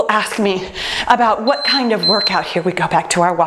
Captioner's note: timer beeps